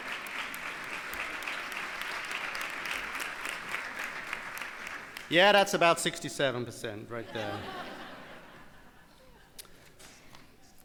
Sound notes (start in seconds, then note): 1.5 crowd cheers; 7.2 crowd laughs